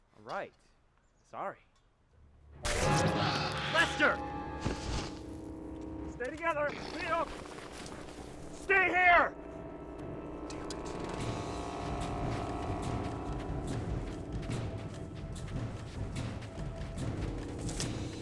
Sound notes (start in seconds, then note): 2.6 thudding; 11.4 suspenseful music